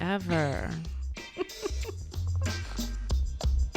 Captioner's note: laughs; theme music plays